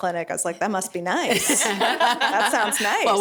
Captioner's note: laughing